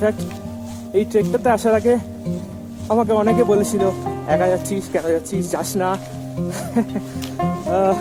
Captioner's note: laugh